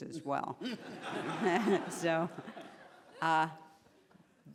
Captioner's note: laughing